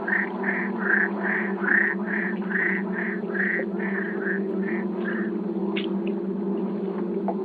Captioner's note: bees droning